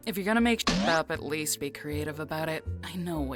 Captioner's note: boink!